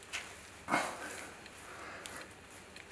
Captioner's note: stressed sounds